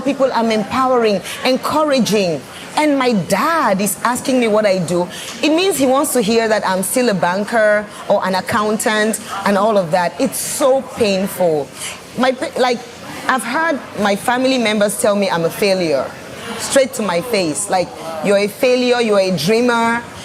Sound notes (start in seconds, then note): none